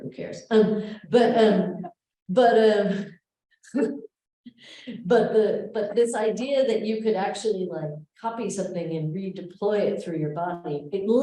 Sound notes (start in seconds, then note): 1.3 laughs